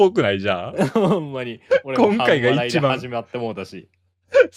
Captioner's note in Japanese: 笑い